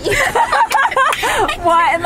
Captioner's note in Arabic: يضحك